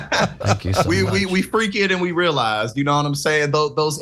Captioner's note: laugh